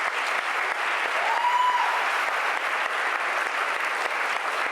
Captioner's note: audience applauding